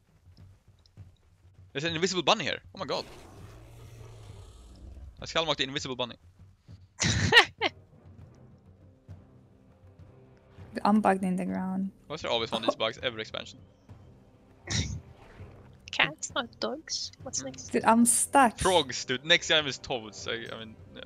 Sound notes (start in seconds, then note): 2.8 roars; 7.0 haha